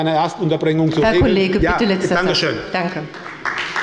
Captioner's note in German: Beifall bei der SPD